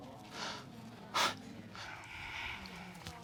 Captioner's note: baker sniffling